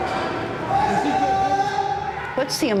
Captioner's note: inmates yelling indistinctly